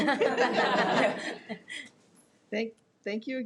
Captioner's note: members laughing